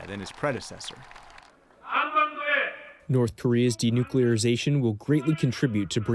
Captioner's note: through translator